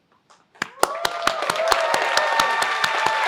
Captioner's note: applause